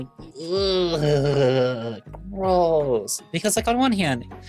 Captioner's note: groans